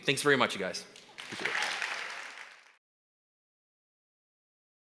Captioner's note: applause